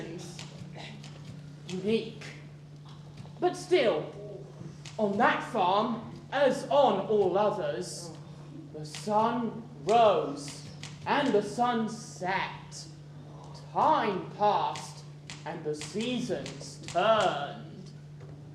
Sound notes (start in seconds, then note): none